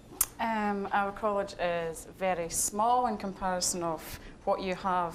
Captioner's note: with Scottish accent